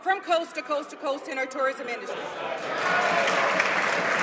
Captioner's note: applause